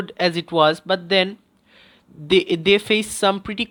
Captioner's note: breathes